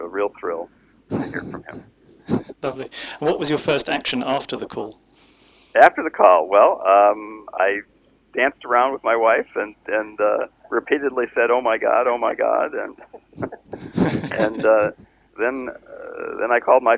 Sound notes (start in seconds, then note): 12.6 laughs